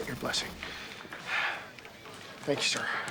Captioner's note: sighs